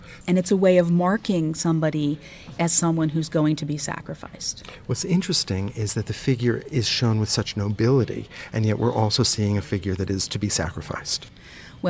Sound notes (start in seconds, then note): 4.4 voiceover